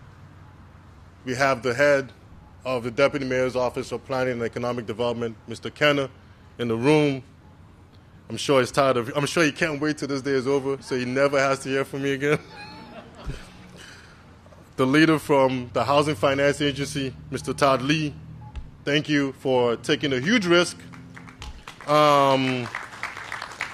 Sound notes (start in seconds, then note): 12.2 laughter